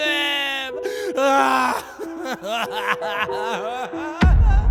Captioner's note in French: pleurs